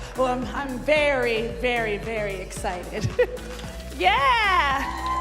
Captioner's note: cheers and applause